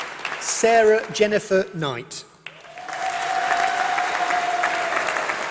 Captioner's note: applause